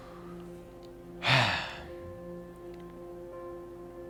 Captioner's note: sighs